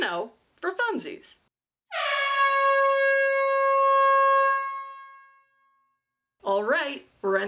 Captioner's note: super loud airhorn